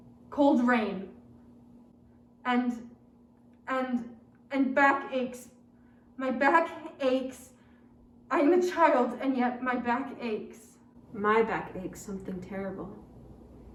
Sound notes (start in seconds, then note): none